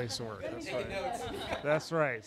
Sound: laughing

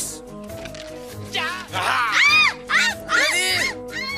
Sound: screaming; screams

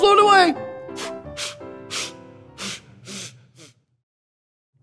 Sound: puffing

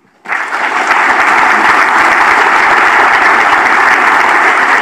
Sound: audience applauds

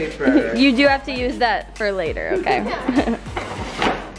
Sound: laughs

